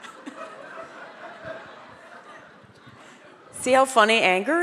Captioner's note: audience laugh